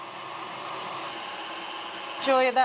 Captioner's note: mixer whirring